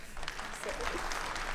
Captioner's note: attendees applauding